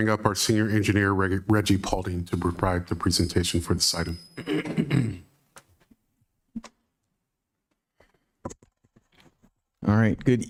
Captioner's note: clears throat